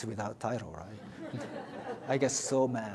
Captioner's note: audience laughs